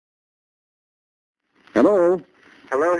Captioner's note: on phone